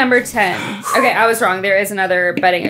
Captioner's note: everyone exhaling